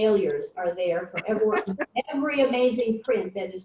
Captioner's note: laughs